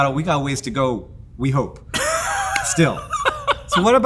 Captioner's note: Brennan laughs